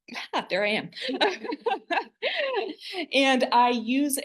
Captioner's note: laughter